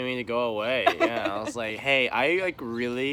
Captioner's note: laughs